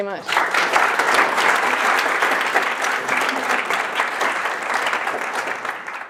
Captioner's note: applause